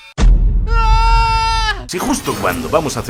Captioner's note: scream